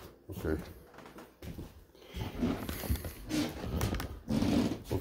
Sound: footsteps

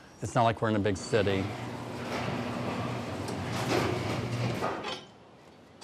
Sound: garage door opening

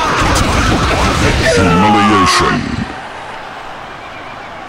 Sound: death scream

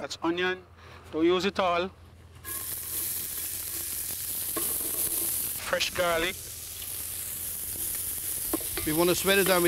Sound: sizzling

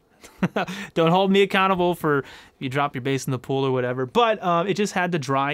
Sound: laugh

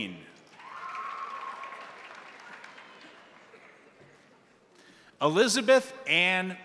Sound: crowd applauding; crowd cheering

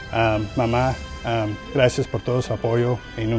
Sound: hispanic language

